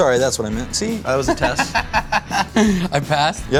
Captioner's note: laughs